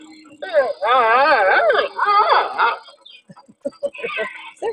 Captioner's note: panda squeaking; chuckling